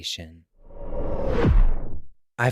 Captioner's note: swoosh